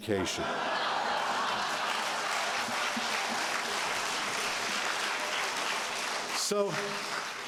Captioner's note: laughter, Applause